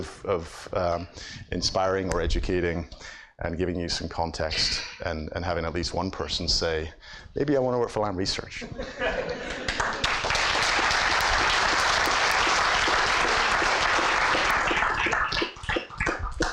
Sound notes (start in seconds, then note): 8.6 audience laughs; 9.4 applause